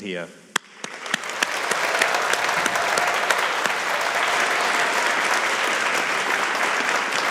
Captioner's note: audience applauding; audience cheering